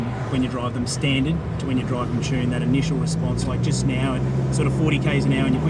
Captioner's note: accelerating